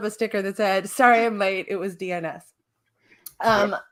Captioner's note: sobbing